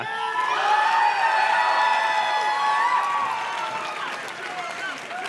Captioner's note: audience cheers and claps